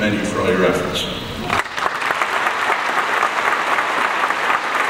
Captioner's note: audience applauds